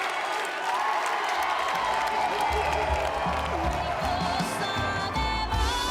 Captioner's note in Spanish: Aclamaciones